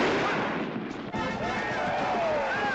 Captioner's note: fireworks exploding